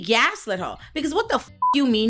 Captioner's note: beep